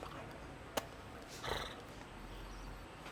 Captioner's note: growls